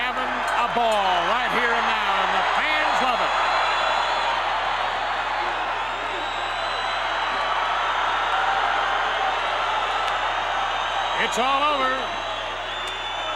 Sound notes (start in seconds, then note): 3.9 crowd cheering